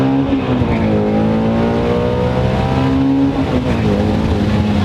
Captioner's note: car engine